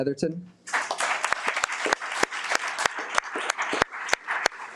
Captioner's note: audience applauding